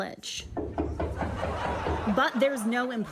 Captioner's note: knocking